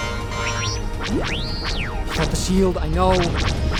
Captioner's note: R7 panicked chirping